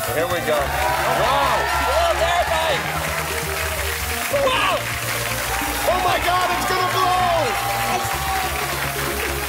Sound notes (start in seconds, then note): 3.5 cheers and applause